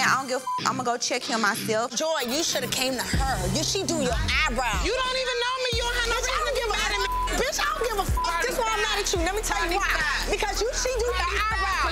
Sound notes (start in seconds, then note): 0.0 beep; 5.8 beep